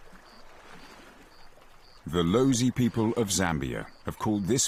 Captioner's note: none